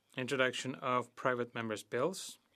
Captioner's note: speaking French